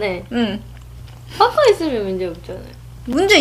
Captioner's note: ant voice